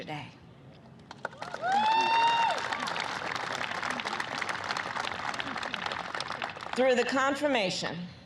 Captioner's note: applause